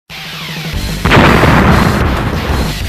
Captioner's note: devastating Explosion